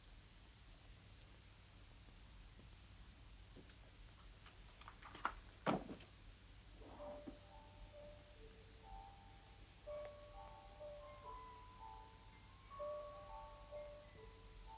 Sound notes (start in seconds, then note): 5.7 box thuds; 6.2 gentle music